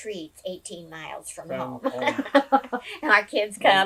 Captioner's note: laughs